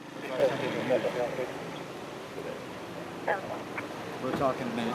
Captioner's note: engine rumbling; officers chattering